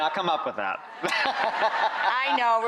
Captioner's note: laughs